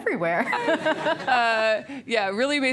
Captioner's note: giggling